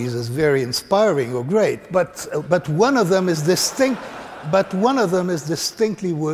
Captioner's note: laughter